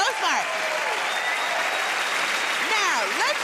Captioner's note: cheers and applause